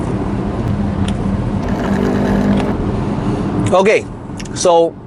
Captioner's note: slurping